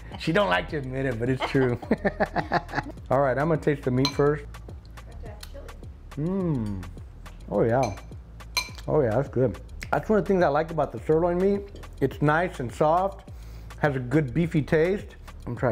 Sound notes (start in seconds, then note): 1.2 both laugh; 4.0 utensil clanks